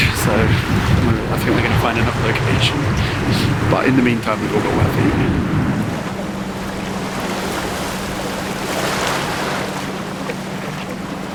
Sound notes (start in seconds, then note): 7.1 waves crashing